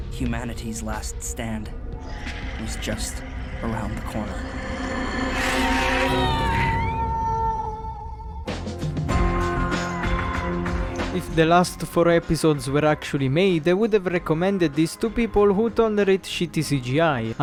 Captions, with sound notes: "humanity's last stand" "Was just... around the corner" *howling bug* If the last for episodes were actually made I would have recommended this to people who tolerate shitty CGI